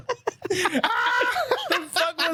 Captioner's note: laughter